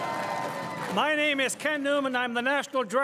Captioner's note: crowd cheering and applauding